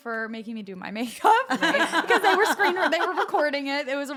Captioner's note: laugh